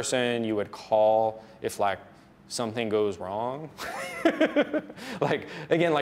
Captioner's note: laughs